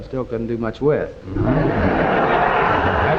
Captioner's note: audience laughing